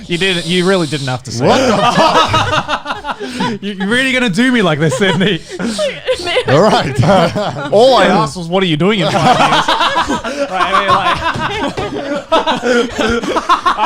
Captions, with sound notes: - You did it, you really didn't have to say it. (laughing) - Where are you really gonna do me like this Sydney? - All I asked was what are you doing? (laughing)